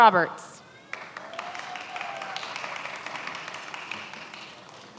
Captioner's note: many applauding